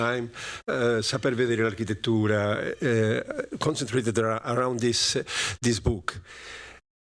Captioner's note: non-english speech